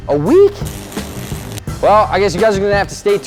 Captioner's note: electrical sound